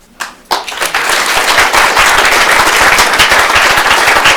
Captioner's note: applause